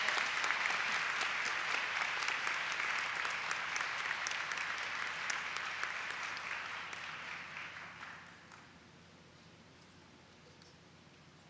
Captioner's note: applause